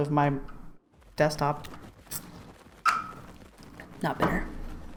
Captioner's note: annoyed sound